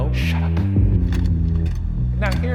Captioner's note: slide projector clicks